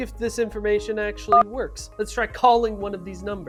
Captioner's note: phone beeps